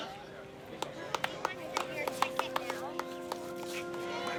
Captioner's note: crowd applauding; somber music